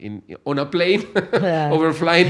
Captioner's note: laughs